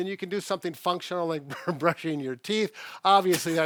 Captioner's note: chuckles